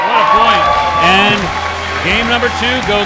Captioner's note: cheering